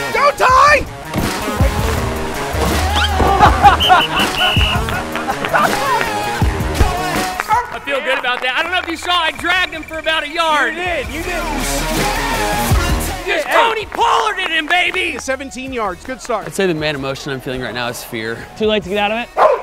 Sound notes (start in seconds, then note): 3.1 laughter; 3.6 whistle blows